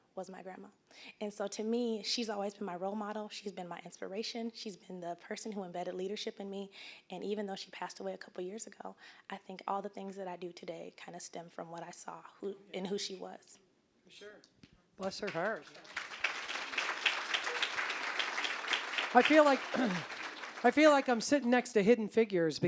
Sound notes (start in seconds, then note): 15.0 applause